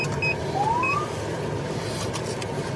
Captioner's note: siren chirps